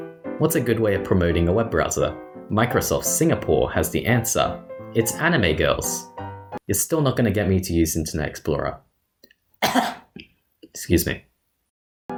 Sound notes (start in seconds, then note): 9.6 cough